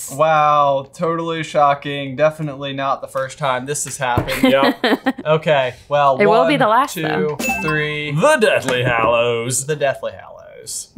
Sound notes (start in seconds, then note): 4.3 laughing; 7.3 bell rings